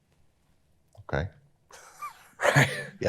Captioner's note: chuckles